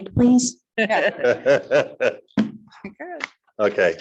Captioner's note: laughing